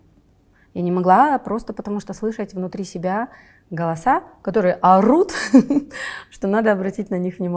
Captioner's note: laughs